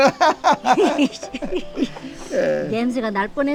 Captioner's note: both laughing